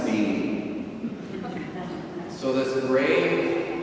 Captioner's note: audience chuckles